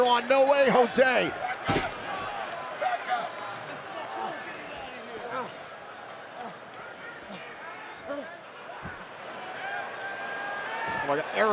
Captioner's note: crowd cheering